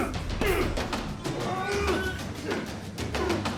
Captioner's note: dramatic music; men grunting